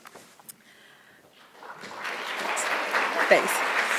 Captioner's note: applause